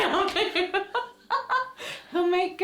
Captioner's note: laughter